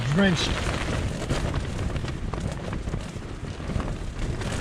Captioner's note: heavy wind and rain